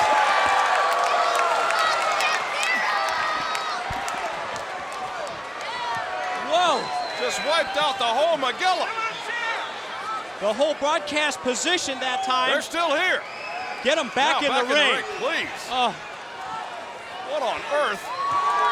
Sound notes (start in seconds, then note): 3.5 crowd cheering